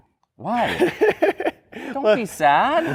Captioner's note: laughs